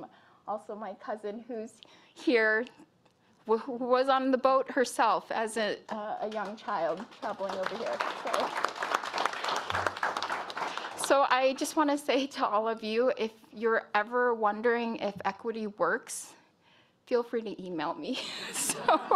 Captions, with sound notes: HERE WHO WAS ON THE BOAT HERSELF AS A YOUNG CHILD. [ APPLAUSE ] SO I JUST WANT TO SAY IF YOU ARE EVER WONDERING IF EQUITY WORKS,